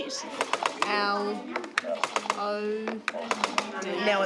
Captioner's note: brailler clacks